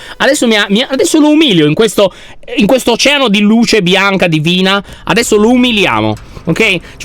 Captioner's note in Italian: none